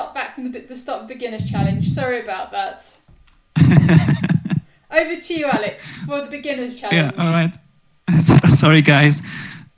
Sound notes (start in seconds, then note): 3.5 laughs